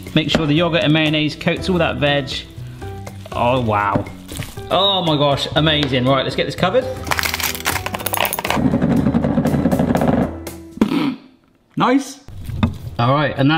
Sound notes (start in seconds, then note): 7.0 wrapper wrapping